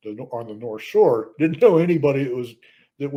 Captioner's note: laughs